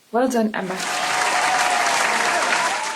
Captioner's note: applause